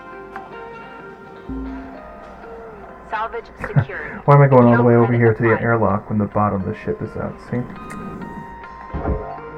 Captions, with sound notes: (laughs) Why am I going all the way over here to the airlock, when the bottom of the ship is out, see? (tsk)